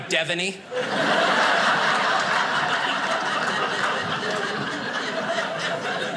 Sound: audience laughing

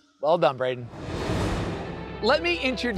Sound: graphics whooshing

